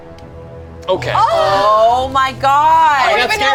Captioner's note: group sighs; overlapping chatter